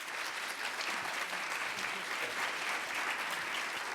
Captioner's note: applause